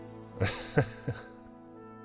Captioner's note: laughing